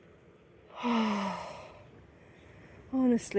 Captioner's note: contented sigh